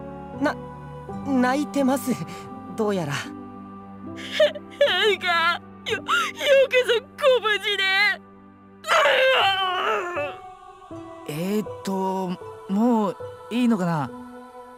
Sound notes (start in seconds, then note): 8.8 full bawl